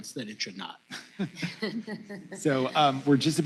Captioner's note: laughter